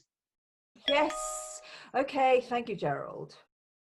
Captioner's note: text message alert